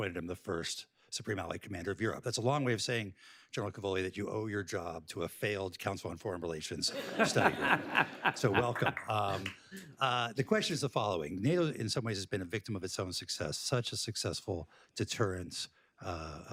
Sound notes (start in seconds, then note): 6.8 laughter